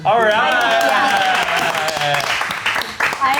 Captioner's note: contestants cheering